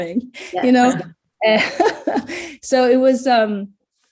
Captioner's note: everyone laughs